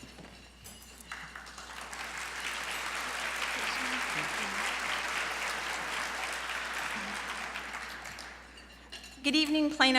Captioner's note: applause